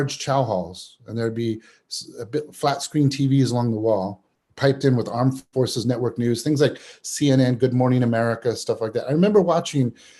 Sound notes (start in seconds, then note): none